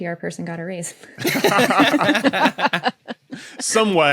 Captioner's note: group laughing